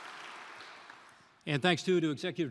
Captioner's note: applause